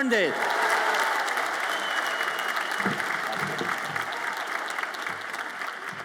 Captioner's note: audience applauds and cheers